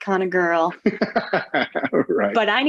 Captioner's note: laughter